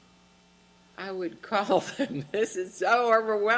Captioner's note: voiceover; laughs